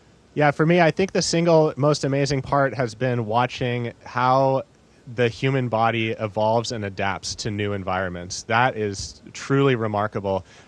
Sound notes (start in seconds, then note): none